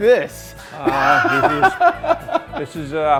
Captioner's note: laughing